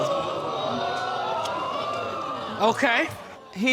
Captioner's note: audience exclaiming